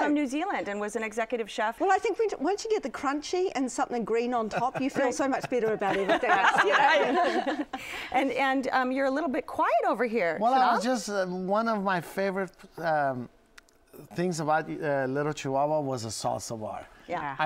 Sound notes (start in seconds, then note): 6.9 laughter